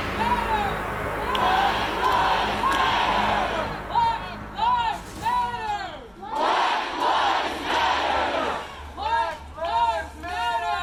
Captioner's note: chant